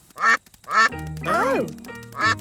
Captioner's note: quacking